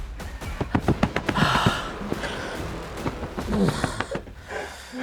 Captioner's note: dramatic music; hand patting